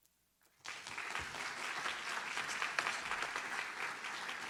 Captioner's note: audience applauds